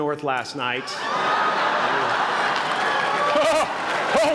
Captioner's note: laughter